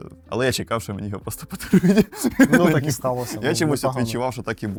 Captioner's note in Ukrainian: сміх